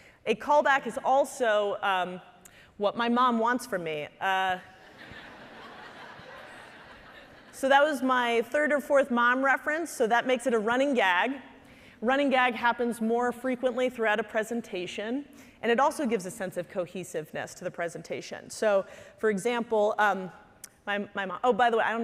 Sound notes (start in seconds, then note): 4.8 audience laughing